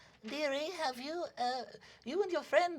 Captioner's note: elderly, high-pitched voice